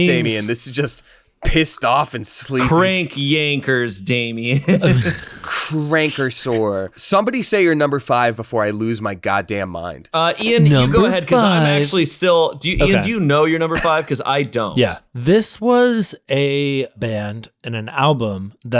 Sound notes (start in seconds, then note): 4.5 laughs